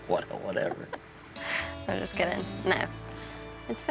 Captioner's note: chuckles